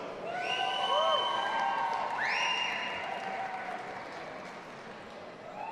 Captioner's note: audience applauding and cheering